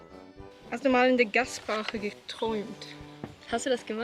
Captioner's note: German